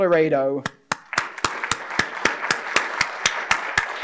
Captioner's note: applause